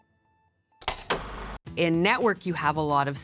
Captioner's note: film reel clacking